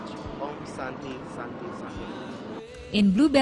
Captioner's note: non-english speech